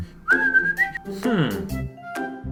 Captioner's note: whistling; sigh